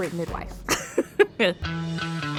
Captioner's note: laugh